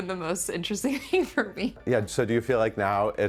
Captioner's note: laughing